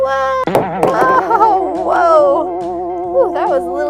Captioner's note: loud boing